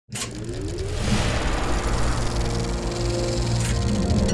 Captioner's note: film projector spinning